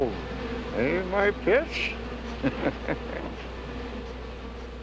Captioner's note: chuckling